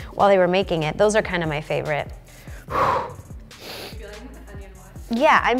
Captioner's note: loud exhaling